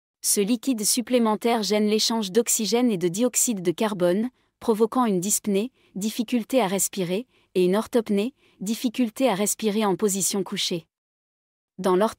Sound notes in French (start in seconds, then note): 8.4 difficulté à respirer